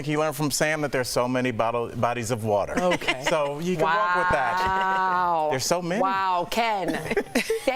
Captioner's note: laughter